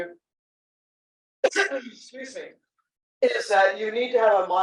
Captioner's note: sneeze